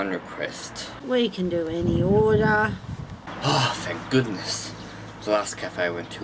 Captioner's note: sigh of relief